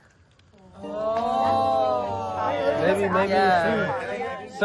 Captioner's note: all exclaim